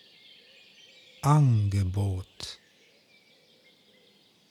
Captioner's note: german